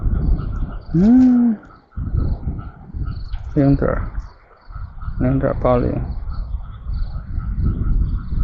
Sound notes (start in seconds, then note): 1.1 running sounds